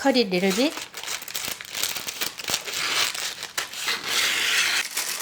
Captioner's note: paper crinkling